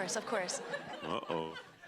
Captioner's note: laughter